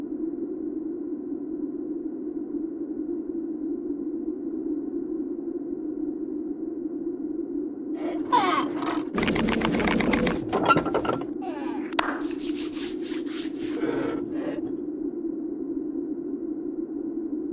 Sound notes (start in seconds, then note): 8.8 scissor slicing; 11.9 big hand slap